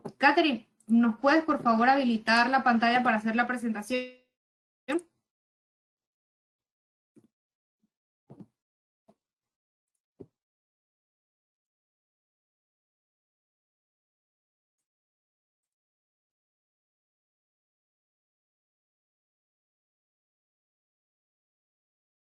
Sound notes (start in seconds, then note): 3.9 silence